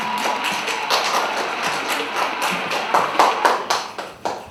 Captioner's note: cheers and applause